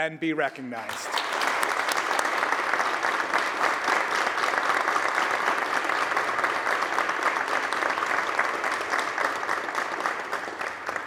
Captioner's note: applause